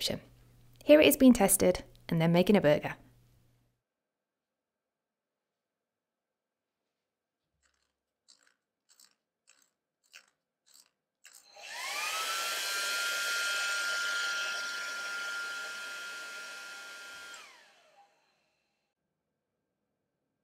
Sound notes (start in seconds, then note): 7.6 dial turning sound; 11.4 hairdryer turning on & off